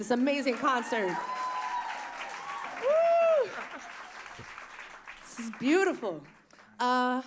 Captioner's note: applause